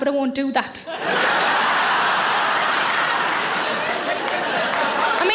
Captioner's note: audience laughs